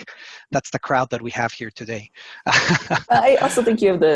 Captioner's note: laughs